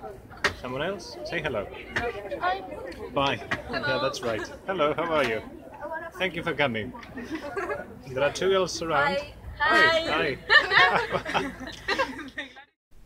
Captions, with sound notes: Someone else? Say hello. -Hi! Bye! That's right. Hello, how are you? Thank you for coming -(laughs) There are two girls around. -Hi! -Hi! -Hi! (all laugh)